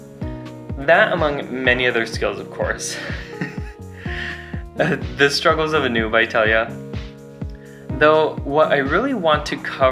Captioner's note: chuckles